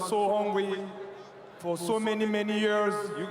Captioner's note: cheering